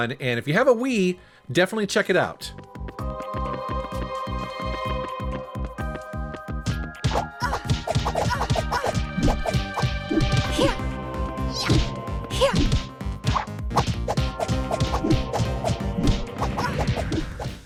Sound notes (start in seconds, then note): 3.3 dramatic music; 7.2 grunts; 7.2 swishes